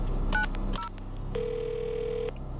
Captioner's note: phone ringing; dialing